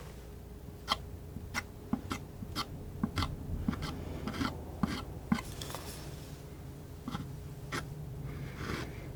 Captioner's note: scratching